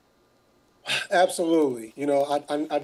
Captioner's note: sighing